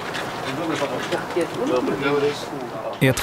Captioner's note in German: Entfernte Gespräche